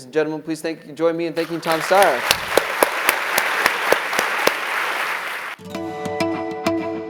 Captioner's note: applause